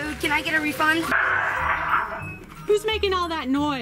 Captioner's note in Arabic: ضحك الإلكترونية مشوهة